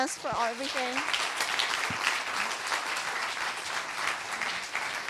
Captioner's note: applause